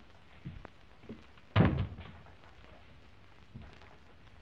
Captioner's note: trunk thuds